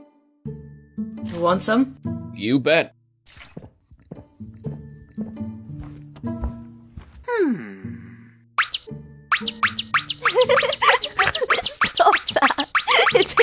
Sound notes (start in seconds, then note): 9.4 cringe noises; 10.2 cringe giggles